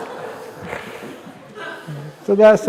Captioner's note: laughter